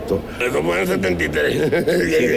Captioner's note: laughs